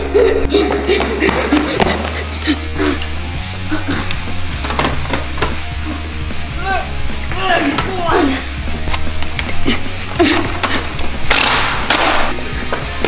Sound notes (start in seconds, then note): 1.7 heavy breathing